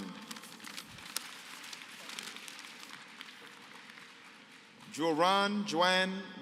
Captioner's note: applause